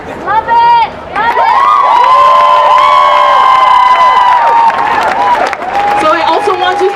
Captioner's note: applause